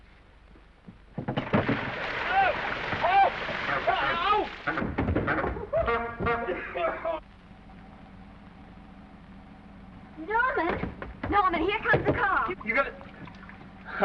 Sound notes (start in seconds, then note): 1.3 Norman yelling; 1.4 water splashing; 4.0 Norman coughing; 4.0 horn honking